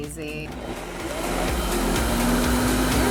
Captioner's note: whirring